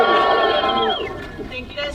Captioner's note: crowd cheering